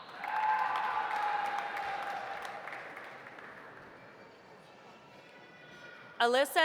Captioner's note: audience applauding; audience cheering